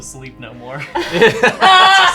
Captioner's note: laughing